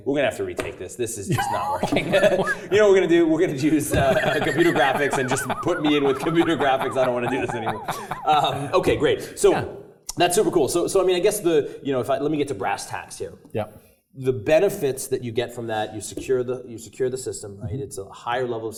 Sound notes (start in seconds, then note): 3.6 laugh